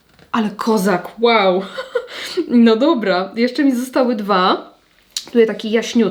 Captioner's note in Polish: śmiech